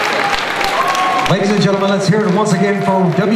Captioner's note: voiceover